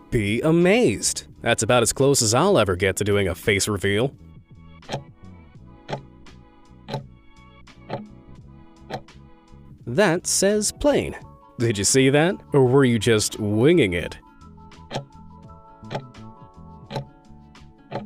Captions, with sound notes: Be Amazed. That's about as close as I'll ever get to doing a face reveal. (timer ticking) That says Plane. Did you see that, or where you just winging it? (timer ticking)